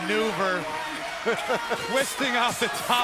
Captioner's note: laughter